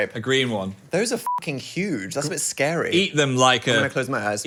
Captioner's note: beep